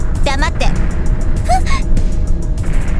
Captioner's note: gasp